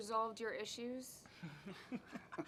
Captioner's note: laughter